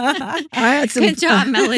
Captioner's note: laughing